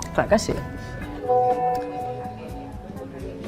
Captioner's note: mobile audible alerts